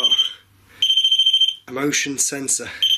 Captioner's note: machine beeping